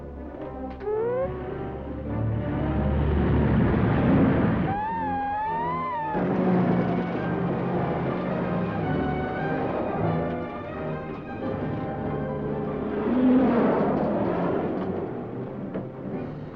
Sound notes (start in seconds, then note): 1.4 scanner hums; 4.6 scanner humming loudly